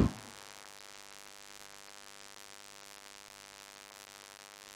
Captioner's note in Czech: výpadek zvuku